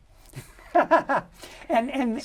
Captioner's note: laughter